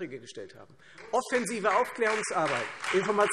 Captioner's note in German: Beifall Freie Demokraten, vereinzelt SPD, AfD und DIE LINKE